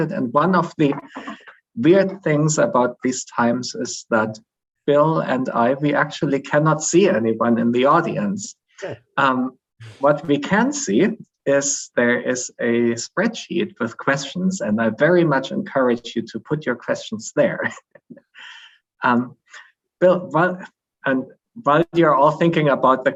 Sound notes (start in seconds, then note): 17.6 chuckles